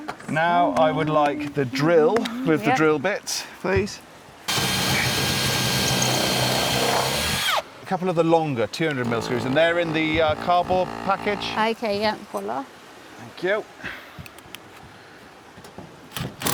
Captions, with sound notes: Now, I would like the drill with the drill bit, please. (drill whirring) A couple of the longer, 200 mil screws and they're in the car bowl package. Okay, yeah, full off. Thank you.